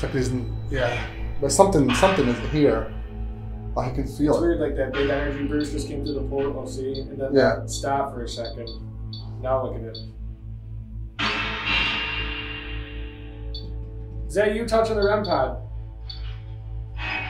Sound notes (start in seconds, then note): 11.2 radio noise reverberating